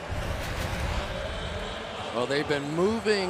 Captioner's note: pa announcement